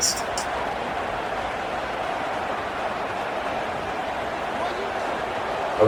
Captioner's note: crowd Noises